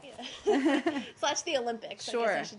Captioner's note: laughter